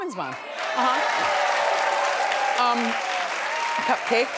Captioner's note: audience cheers